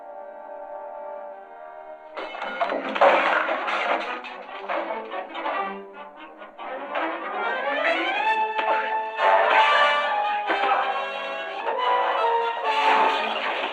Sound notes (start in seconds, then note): 2.2 clanging; 4.6 tense music